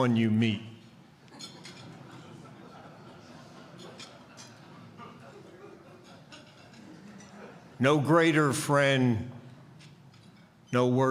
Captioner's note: laughter